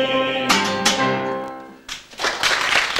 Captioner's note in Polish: Aplauz